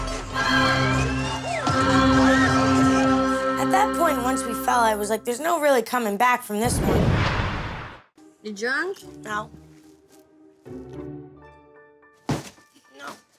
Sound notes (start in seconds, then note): 6.6 whooshing; 11.0 whimsical music